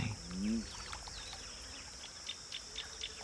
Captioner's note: bullfrog croaking